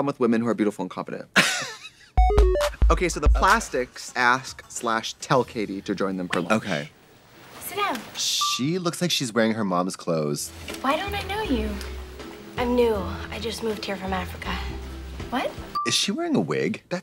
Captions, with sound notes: with women who are beautiful and confident. (Katya snickers) (upbeat music) Okay, so The Plastics ask / tell Cady to join them for lunch. - Wait. - Okay. - Sit down. - She looks like she's wearing her mom's clothes. - Why don't I know you? - I'm new, I just moved here from Africa. - What? - Is she wearing a wig?